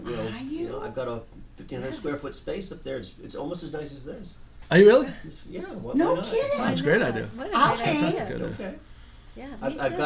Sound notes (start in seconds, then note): 4.6 voiceover